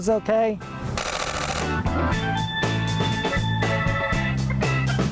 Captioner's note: camera clicking